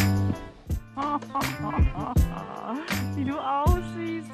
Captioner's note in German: Hahahaha